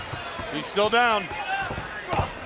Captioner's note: crowd chatter